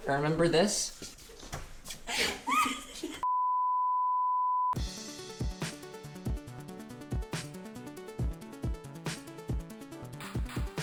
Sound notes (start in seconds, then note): 3.2 recording beeps; 4.7 upbeat music